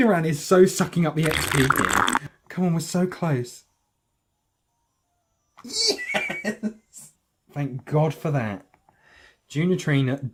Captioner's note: straw noises